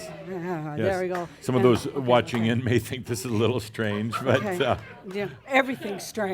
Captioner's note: more chuckles and giggles; some chuckles